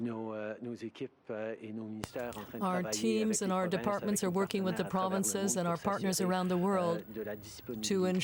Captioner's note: speaking french